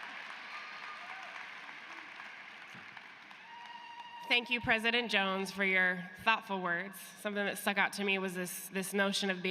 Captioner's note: cheers and applause